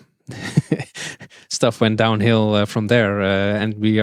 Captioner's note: chuckles